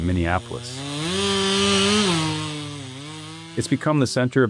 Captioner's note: power saw revving